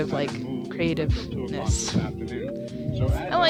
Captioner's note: gross mic breath